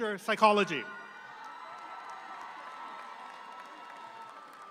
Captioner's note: audience applauds